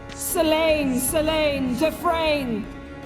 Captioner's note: none